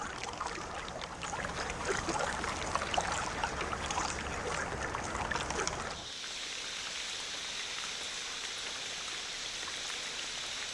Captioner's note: water splashing